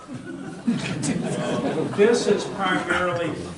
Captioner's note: audience laughter